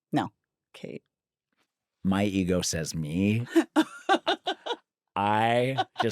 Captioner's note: laughs